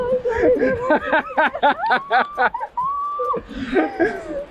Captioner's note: laughs